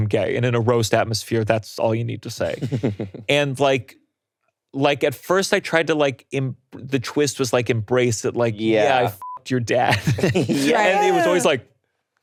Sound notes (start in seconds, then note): 2.5 laughing; 9.1 beeps